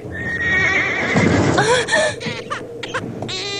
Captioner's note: horse neighing; thud; baby crying